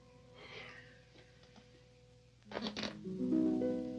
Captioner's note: Edward sighs